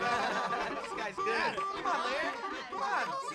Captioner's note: laughs